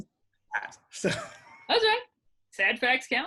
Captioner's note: laughing